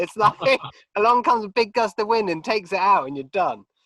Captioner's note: both chuckling